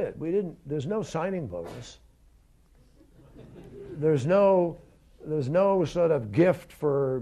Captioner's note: laughter